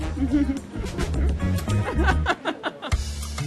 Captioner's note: laughs